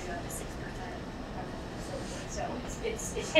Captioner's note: speaking away from mic